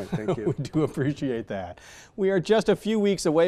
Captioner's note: laughs